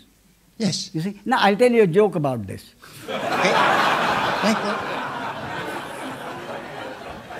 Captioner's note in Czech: smích